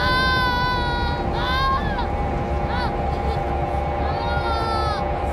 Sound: sobbing; moaning

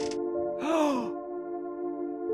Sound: gasping

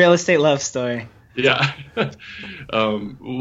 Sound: laughs

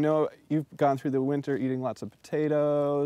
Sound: none

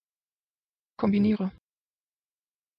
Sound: fast Pronunciation

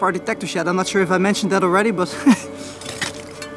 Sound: laughs

